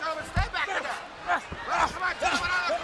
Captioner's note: wrestlers grunting